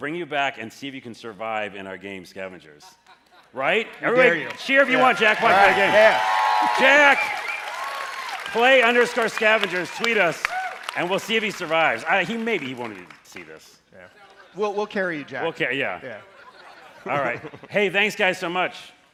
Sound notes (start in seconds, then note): 13.6 cheers and applause